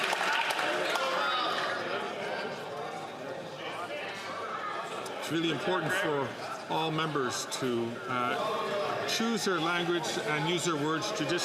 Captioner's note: some Applause